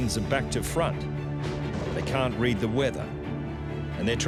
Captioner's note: lighting crashes